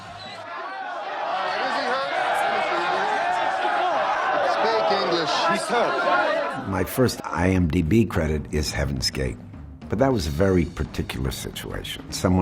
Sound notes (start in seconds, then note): 0.0 people shouting; 2.6 speaking in foreign language